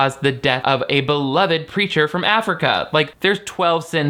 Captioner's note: none